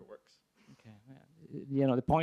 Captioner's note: voiceover